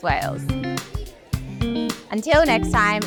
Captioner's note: people chattering; upbeat music